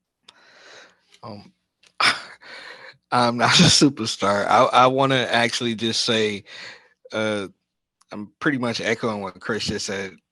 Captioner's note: chuckle